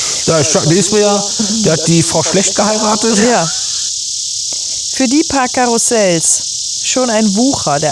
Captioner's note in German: schnauben